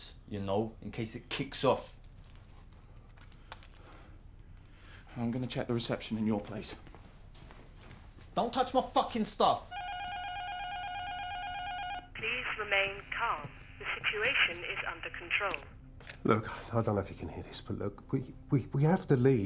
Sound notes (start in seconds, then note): 9.7 intercom buzzer rings; 13.6 intercom